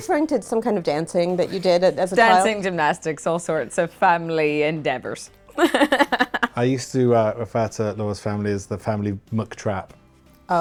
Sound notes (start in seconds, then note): 5.6 laughing